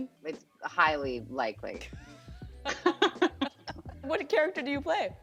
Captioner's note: laughter